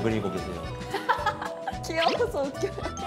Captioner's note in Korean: 헤헤